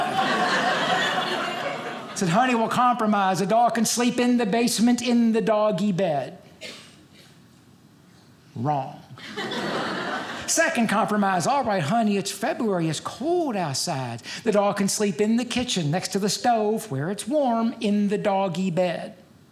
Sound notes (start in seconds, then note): 0.0 audience laughing; 9.2 audience laughing